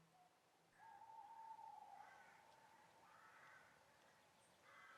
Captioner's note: owl hooting